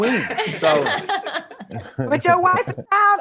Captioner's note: panelists laughing